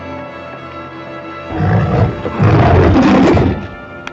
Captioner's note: roaring; whispering